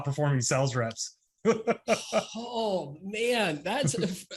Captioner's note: laughs